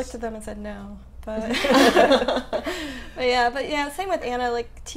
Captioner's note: laughing